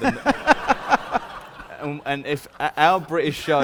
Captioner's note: laughter